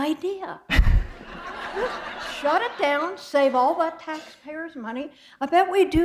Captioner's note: laughter